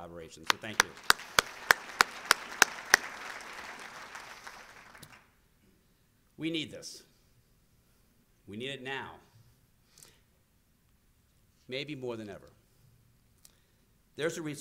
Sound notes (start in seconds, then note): 3.9 applause